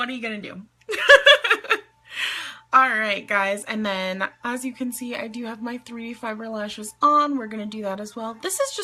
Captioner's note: laughs